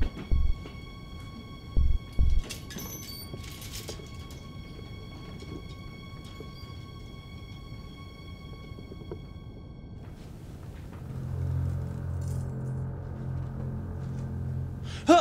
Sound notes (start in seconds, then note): 0.0 footsteps thudding; 2.1 door squeaks; 12.4 hangers clatter